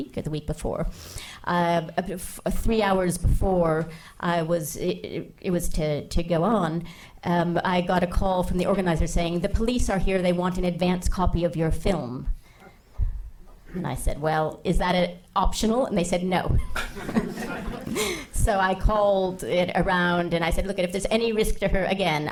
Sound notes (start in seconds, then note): 16.7 laughing